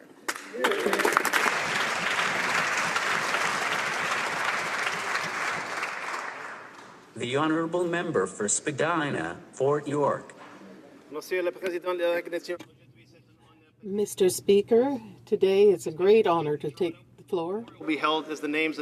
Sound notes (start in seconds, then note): 4.1 some Applause